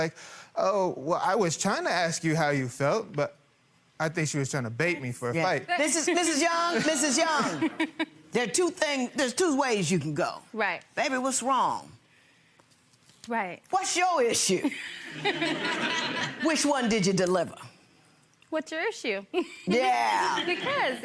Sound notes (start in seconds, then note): 14.6 people laughing; 19.4 chuckles